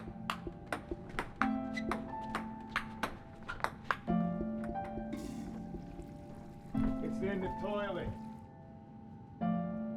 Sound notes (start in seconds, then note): 5.2 toilet flushes